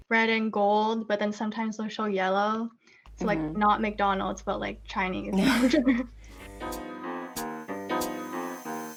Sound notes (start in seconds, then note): 5.3 laughs; 5.9 jazzy music